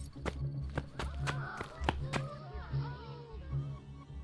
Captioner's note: suspenseful music; guests gasping